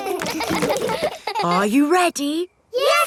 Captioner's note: kids laughing